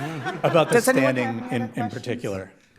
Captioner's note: audience laughing